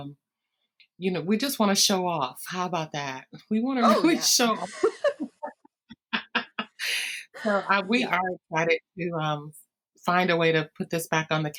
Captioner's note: laughter